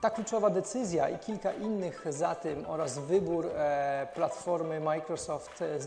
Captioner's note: speaking foreign language